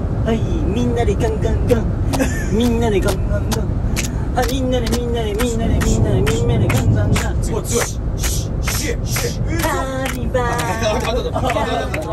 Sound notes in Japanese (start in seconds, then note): 2.5 手拍子